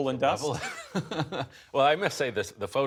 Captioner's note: laughter